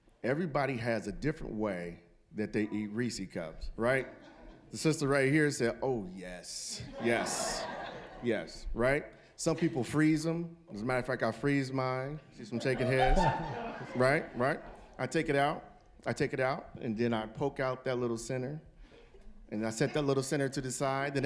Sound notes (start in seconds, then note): 6.8 audience laughing